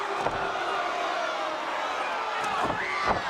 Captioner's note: crowd cheering